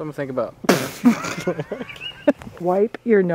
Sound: bursts out laughing

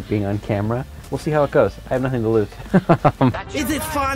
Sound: laughs

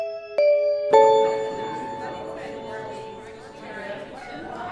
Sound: musical chime; chattering

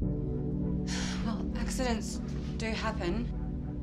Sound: suspenseful music; sighs

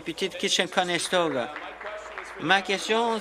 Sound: applause

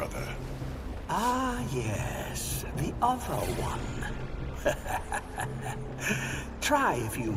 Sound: laughs

